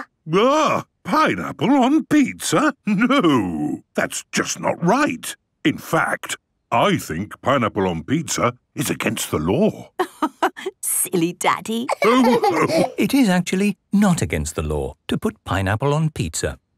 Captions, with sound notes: - Agghh! Pineapple on pizza? No! That's just not right! In fact, I think pineapple on pizza is against the law! - (laughing) Silly Daddy! - It is actually not against the law to put pineapple on pizza.